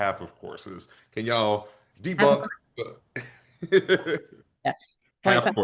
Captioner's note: laughter